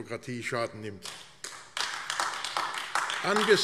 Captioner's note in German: Beifall AfD